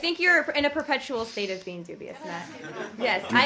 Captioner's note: laughter